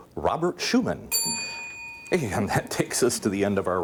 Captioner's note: ding